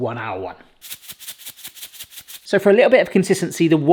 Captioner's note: salt rattling